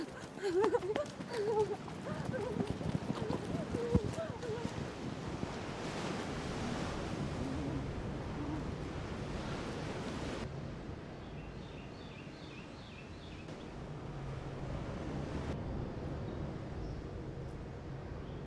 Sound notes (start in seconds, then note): 0.0 Julie whimpers running for her life; 6.0 waves crashing; 11.3 eerie music; 11.3 birds chirping